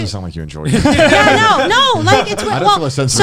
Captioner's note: all laughing